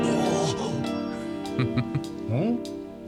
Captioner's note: heh heh heh…